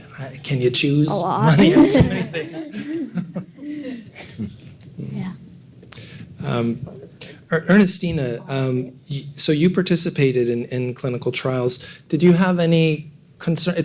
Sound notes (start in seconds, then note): 1.1 laughing